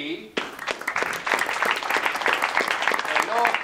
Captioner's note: audience claps